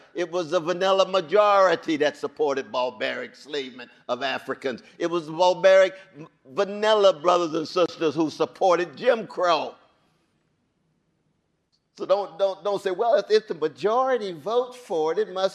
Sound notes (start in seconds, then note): none